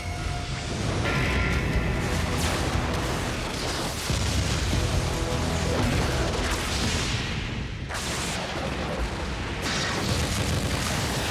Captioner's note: sounds of battle